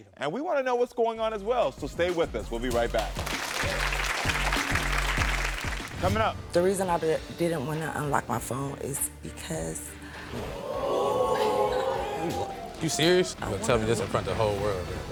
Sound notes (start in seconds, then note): 2.4 upbeat music; 2.7 audience clapping; 10.2 audience gasping